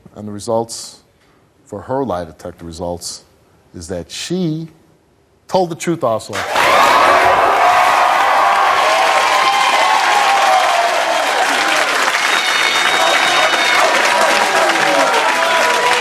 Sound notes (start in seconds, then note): 5.6 audience cheering